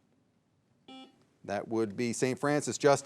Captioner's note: signal beeps